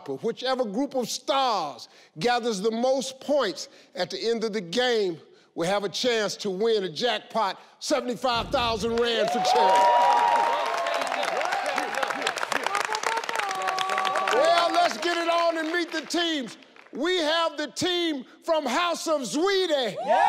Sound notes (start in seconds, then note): 8.4 audience cheering; 20.0 audience cheering